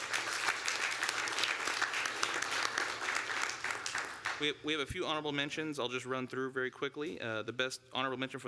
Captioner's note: applause